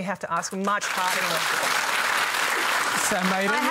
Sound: applause

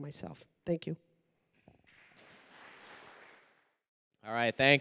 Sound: applause

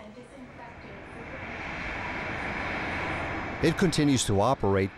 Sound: plane engine roaring

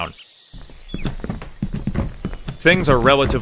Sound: footsteps on wood

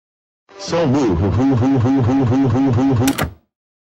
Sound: yelling

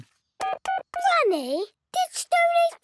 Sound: dial tones beeping

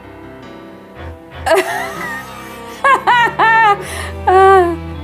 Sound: laughing

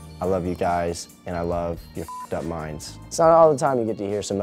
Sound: beep

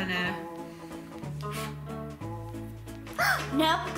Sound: blows air; gasps

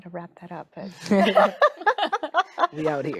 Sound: group laughing

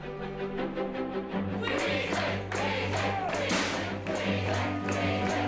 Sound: chanting

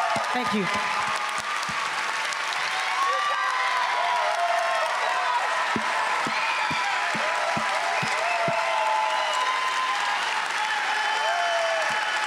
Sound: cheers and Applause

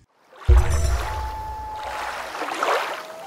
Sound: water rushing, loon calling

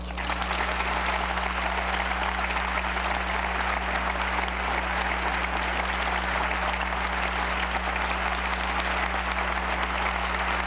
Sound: sustained applause

